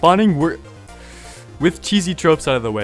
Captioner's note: annoyed inhale